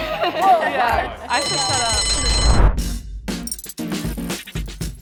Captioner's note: bell rings